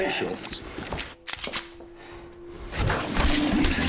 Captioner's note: gun clicking